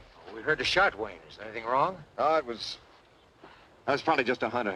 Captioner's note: none